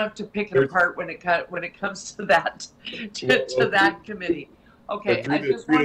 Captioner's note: laughing